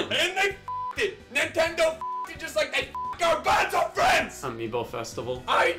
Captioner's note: beeps